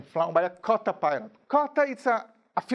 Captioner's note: speaking in a foreign language